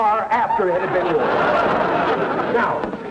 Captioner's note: audience laughter